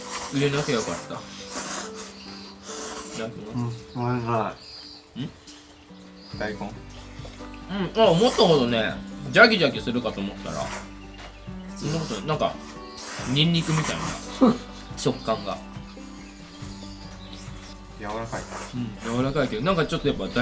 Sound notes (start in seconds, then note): 7.8 laughs